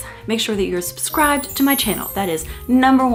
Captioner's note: chimes ring